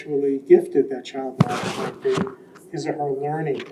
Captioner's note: mic scratches